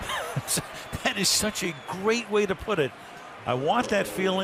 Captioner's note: laughs